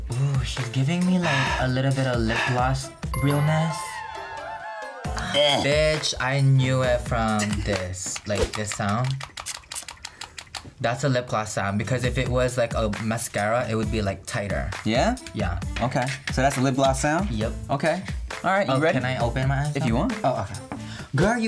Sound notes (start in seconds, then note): 3.1 bell dings; 3.8 crowd cheers; 8.1 rapidly clicks applicator